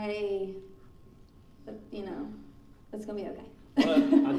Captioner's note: laughing